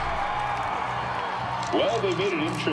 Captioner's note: crowd cheers